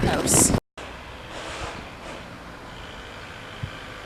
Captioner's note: majestic nature sounds